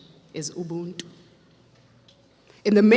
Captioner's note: speaks foreign language